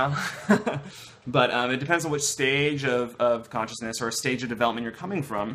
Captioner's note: laughter